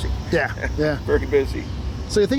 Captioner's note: laughs